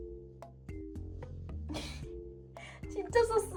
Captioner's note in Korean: 헛웃음